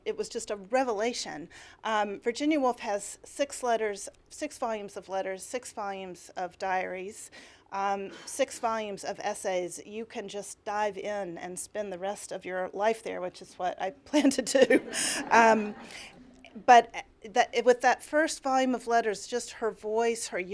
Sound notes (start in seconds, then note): 14.6 laughter